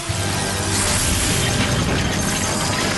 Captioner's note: whoosh